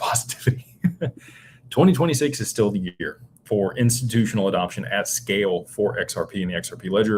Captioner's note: laughter